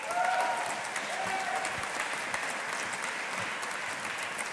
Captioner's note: audience applauding